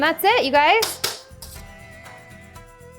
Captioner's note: banging; upbeat music